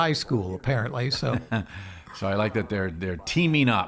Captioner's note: laughing